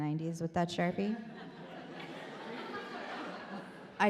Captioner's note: audience laughs